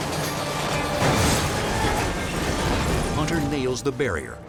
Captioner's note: car crashes